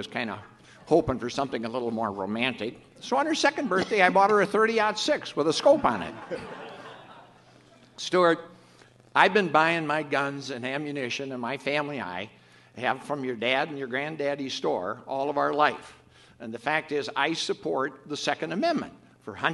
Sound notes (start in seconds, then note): 6.8 audience laughs